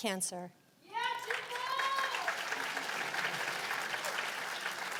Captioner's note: cheers and applause